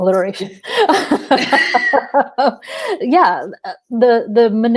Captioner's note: laughing